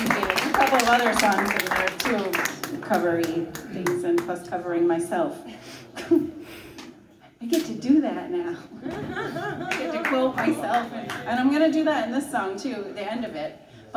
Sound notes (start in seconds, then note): 6.0 light giggle; 8.8 light audience laugh and clap